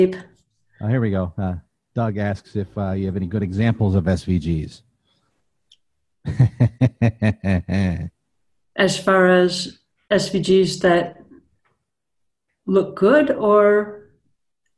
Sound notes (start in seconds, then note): 6.2 chuckles